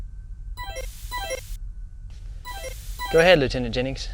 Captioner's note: computer alert sound